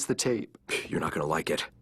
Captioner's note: scoffs